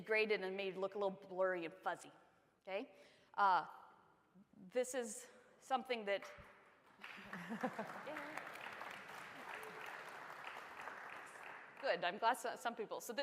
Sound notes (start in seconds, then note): 6.9 applause